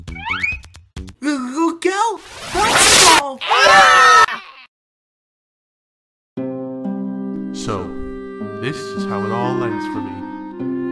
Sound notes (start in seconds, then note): 3.4 Team 5 screams